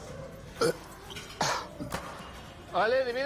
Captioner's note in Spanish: Eructo